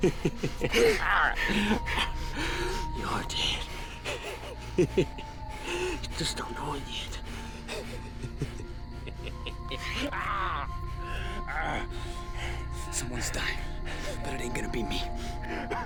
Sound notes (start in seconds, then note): 0.1 laughing; 4.8 laughing; 7.7 laughing